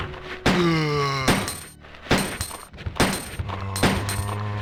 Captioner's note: gunshots